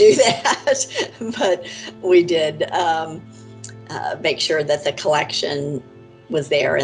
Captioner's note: laughs